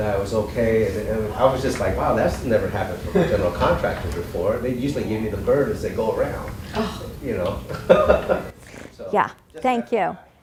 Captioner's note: laughing